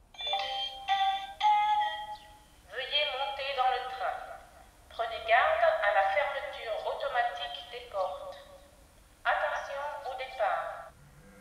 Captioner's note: french